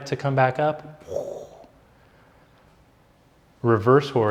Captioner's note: blows air